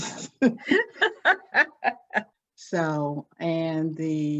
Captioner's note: laughs